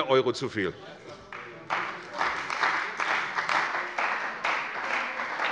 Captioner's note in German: Beifall bei der CDU und dem BÜNDNIS 90/DIE GRÜNEN